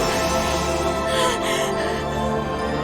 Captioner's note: gasping for air